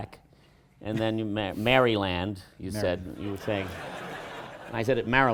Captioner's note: laughter